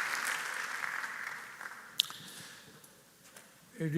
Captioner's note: applause